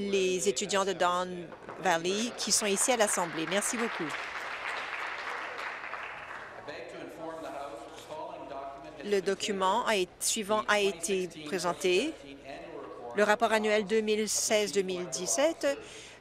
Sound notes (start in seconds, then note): 5.6 applause